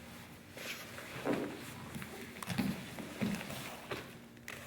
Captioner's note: soft shuffling